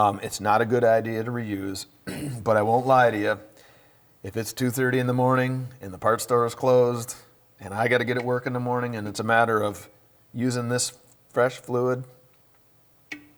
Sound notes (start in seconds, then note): 2.0 clears throat